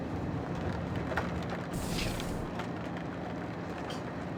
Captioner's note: air hisses